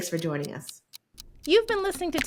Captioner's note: clock ticking